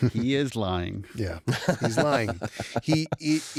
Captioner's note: laughs